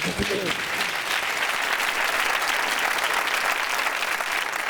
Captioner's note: applause